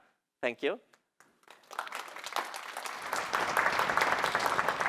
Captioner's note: applause